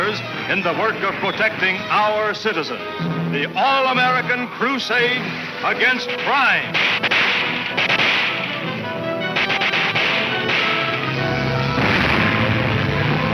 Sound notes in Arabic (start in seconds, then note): 6.9 إطلاق نار; 6.9 موسيقى أوركسترا درامية